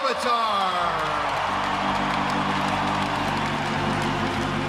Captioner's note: fans cheering